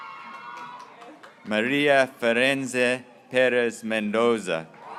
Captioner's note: graduates cheering